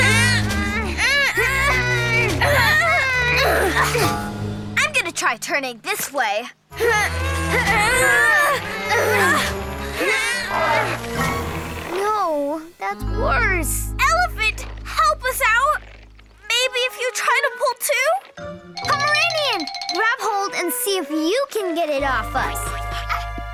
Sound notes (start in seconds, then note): 0.0 group grunting; 0.0 playful music; 6.8 group grunting; 7.2 playful music; 23.3 playful music